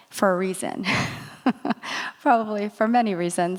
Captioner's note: laughs